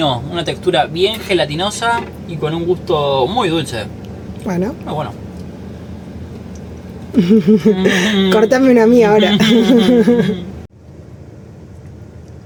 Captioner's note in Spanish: risas